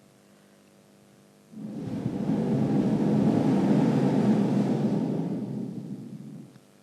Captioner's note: shree mataji blows into the microphone